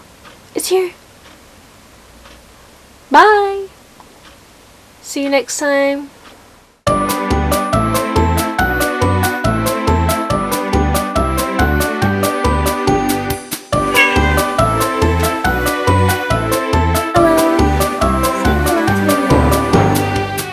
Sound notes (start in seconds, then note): 13.8 cat meow